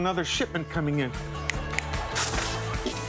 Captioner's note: snaps fingers